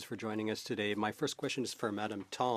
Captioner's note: speaking French